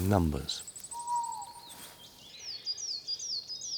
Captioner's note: owl hoots